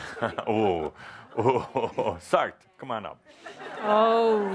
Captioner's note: chuckling; laughter